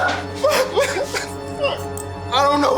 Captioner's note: prisoner whimpering